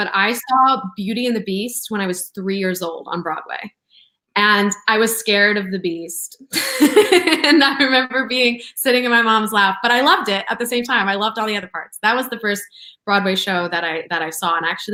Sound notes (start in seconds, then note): 6.6 laughs